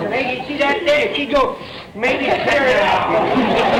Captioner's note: makes sniffing sound; audience laughter